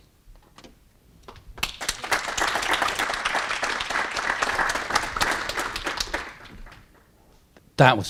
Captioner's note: applause